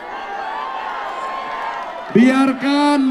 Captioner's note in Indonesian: tepuk tangan